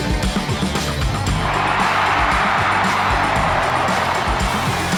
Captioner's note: crowd cheering